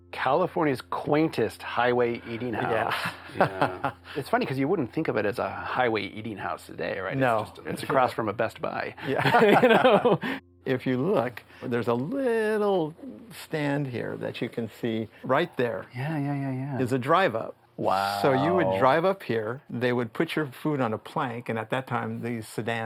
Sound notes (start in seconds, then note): 9.0 laughter